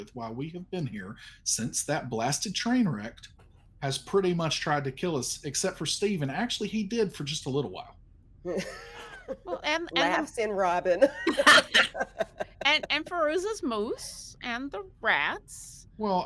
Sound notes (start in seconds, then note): 8.5 person chuckling; 10.8 people laughing